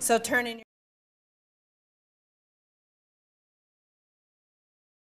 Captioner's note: no speech